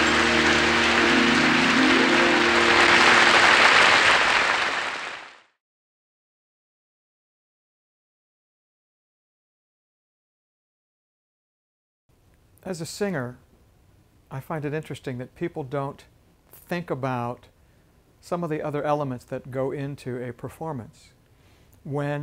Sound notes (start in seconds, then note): 0.0 applause; 5.6 pause